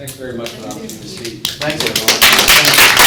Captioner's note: audience applauds